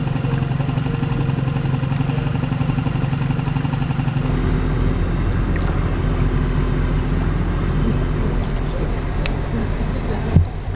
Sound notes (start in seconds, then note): 0.1 engine rumbling; 4.9 water bubbling